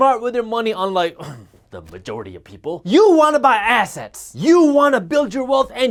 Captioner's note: clears throat